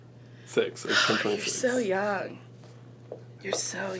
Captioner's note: sighs